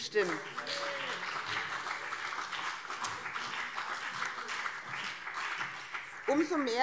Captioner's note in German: Beifall BÜNDNIS 90/DIE GRÜNEN und CDU - Zurufe SPD